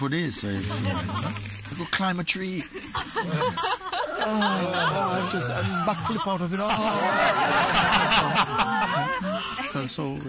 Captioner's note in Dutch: gelach